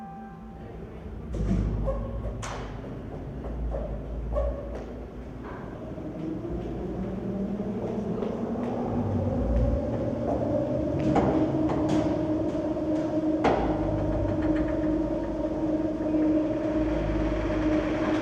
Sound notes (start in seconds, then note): 1.4 hydraulic motors